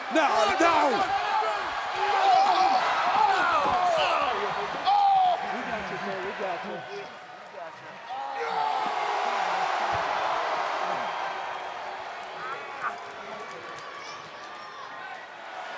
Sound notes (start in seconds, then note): 0.3 person yelling; 2.8 group gasping; 5.9 people chattering indistinctly; 8.4 crowd cheering